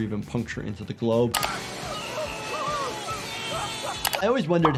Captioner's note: people screaming